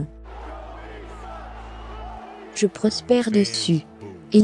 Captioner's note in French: Chants de la foule